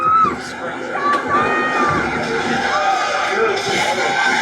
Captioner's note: crowd cheering; crowd chattering